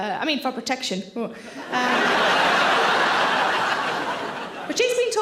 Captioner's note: audience laughter